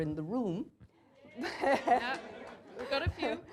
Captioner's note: cheers from audience